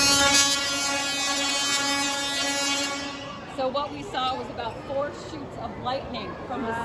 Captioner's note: loud electrical buzzing